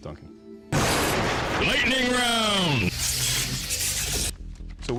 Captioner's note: intense male voice